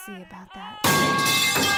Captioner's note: loud crash